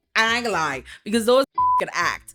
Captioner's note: beep